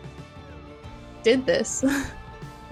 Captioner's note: little laughter